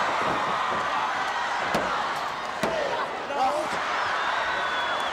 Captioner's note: audience cheering; mat banging